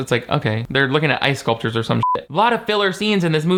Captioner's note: beep